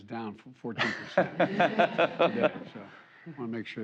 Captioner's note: laughter